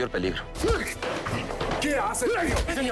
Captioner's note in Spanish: Golpes